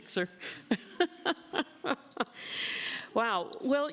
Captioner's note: laughs